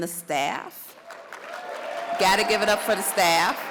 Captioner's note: audience applauds